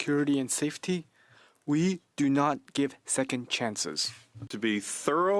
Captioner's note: speaking French